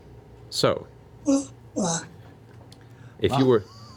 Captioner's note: weird Skype noises